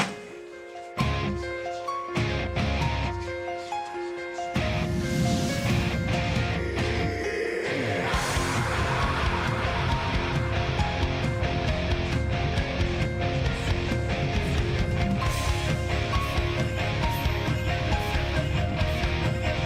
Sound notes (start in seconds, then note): 5.2 whooshing sound